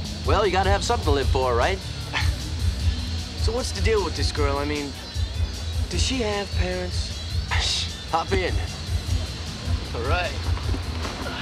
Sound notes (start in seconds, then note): 2.0 chuckling; 7.6 snickering